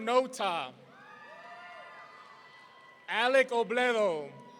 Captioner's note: audience cheering